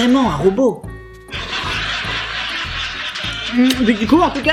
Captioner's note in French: Rires de sitcoms